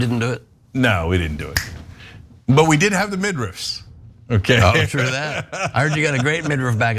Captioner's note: laugh